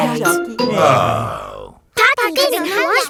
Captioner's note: sighs